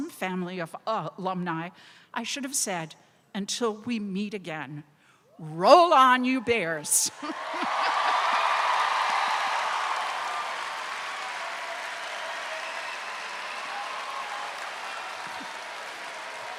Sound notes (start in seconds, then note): 7.4 crowd cheers